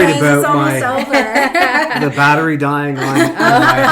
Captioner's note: laughing